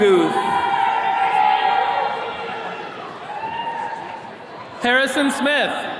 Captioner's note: attendees cheering